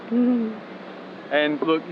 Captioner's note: chuckling